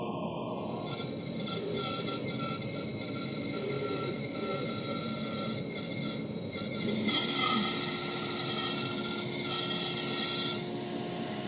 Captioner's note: saw squeaking